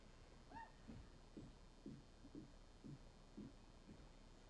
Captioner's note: attendee cheers